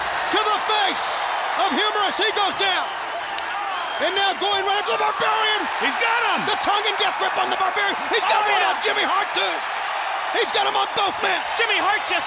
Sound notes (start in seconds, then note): 3.0 crowd cheering; 9.6 crowd cheering